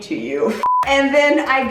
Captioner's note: beeping